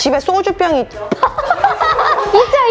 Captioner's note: laughter